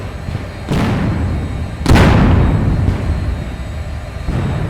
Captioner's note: cannons fire